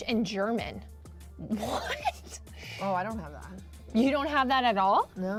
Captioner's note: laughter